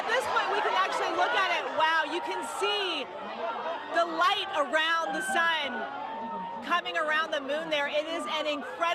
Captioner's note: cheers